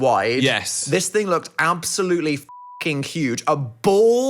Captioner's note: beep